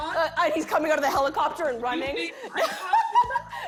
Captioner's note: laughs